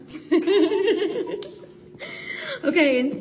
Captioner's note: laughs